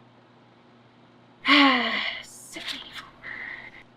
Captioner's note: sighs